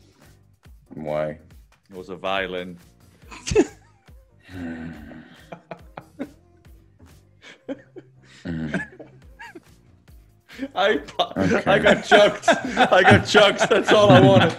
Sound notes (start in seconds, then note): 2.7 laugh